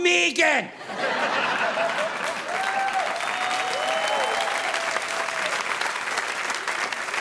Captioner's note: audience laughing; audience applauding